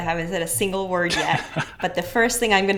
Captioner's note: chuckles